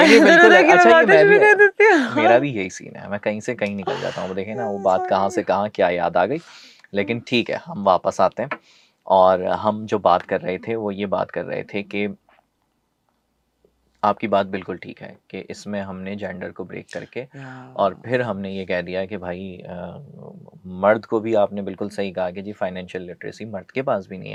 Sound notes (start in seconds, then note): 0.0 laughs; 6.6 nasal sound